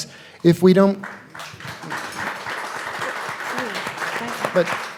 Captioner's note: audience applauding